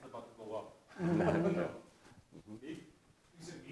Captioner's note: audience laughing